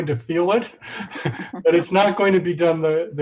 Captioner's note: laughing